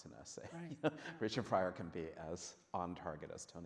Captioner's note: laughs